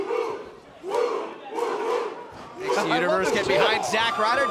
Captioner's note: fans chanting